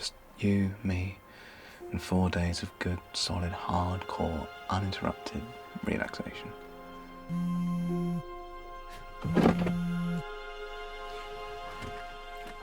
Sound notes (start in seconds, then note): 7.3 cellphone vibrating